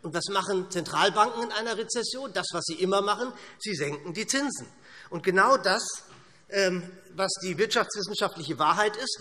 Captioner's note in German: none